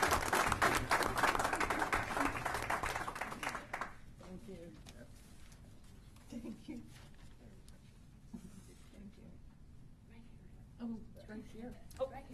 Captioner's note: applause